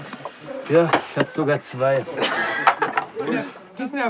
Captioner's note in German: Lachen